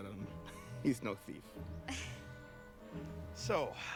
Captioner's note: laughs